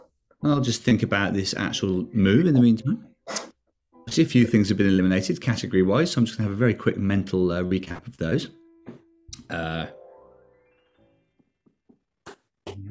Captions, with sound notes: I'll just think about this actual move in the meantime. [EXHALES] I see a few things have been eliminated, category-wise, so I'm just going to have a very quick mental, er, recap of those. Er...